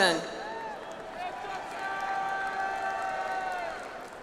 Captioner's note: audience applauds